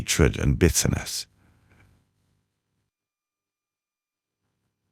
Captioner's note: silence